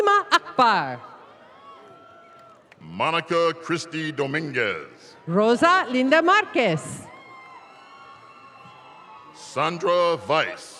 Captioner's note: applause